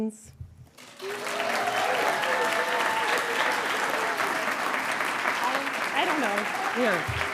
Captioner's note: audience cheering and applauding